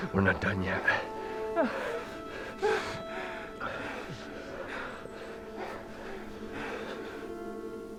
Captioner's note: gasping